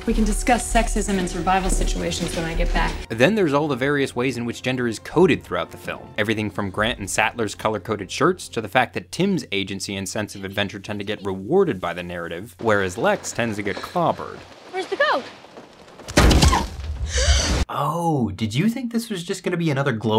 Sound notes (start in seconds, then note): 16.1 goat leg thuds against window; 17.0 Lex gasps